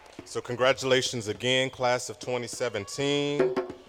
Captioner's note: cheering